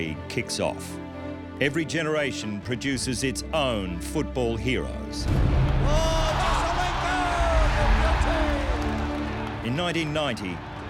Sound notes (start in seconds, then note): 5.8 commentator cheering